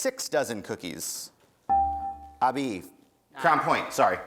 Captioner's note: dinging